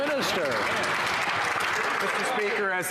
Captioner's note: some Applause